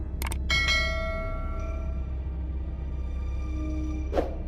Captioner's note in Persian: صدای زنگ